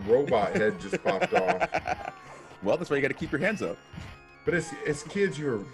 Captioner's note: laugh